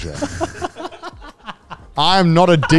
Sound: co-hosts laugh

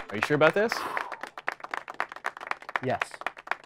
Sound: exhales

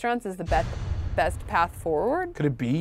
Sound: thunderous booms

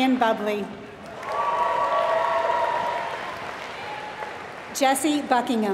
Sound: applause

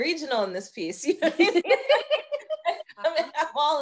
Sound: laughing loudly

